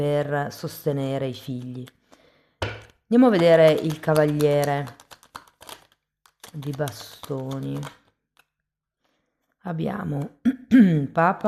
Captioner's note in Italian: schiarire la voce